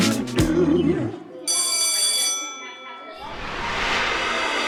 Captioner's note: bell ringing